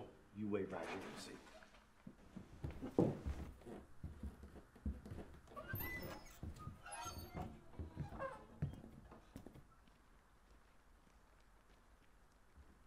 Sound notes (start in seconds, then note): 7.1 doors creaking